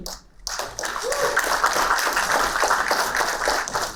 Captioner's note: applauding